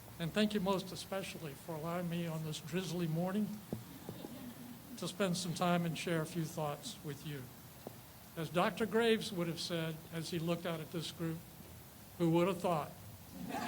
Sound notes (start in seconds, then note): 3.8 people chuckle